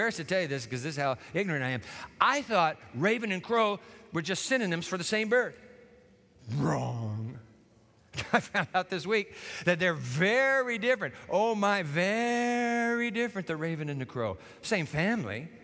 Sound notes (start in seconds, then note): 8.1 chuckles